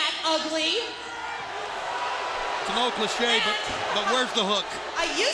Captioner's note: crowd chatter